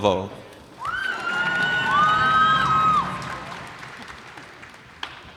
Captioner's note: cheers and applause